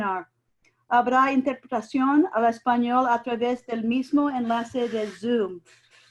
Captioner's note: speaking in foreign language